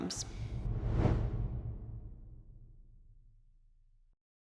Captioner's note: air whooshing